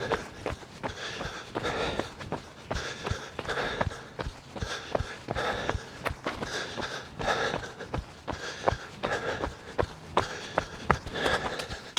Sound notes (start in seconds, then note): 0.2 footsteps stomping; 0.2 runner panting